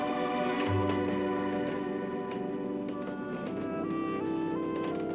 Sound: stairlift gears clicking

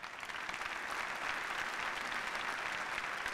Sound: applause

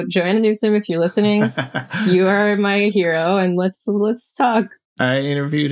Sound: laughter

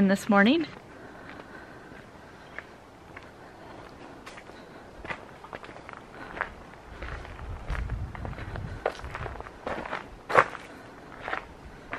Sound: wind and footsteps

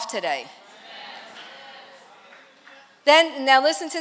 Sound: congregation chatter

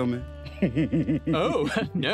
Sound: Ozzie giggles

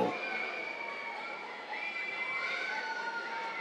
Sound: cheers

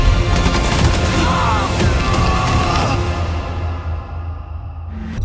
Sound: gunfire; man screaming; ominous music playing

